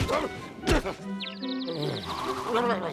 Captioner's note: grunts; birds tweeting; mutters